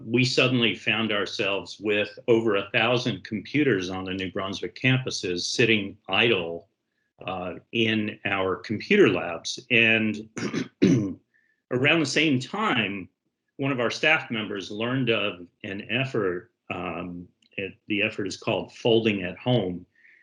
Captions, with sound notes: we suddenly found ourselves with over 1,000 computers on the New Brunswick campuses sitting idle in our computer labs. And, (clears throat) around the same time, one of our staff members learned of an effort. And the effort is called Folding at Home.